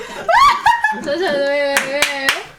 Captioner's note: laughing